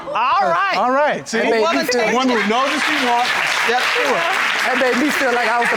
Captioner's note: audience applauding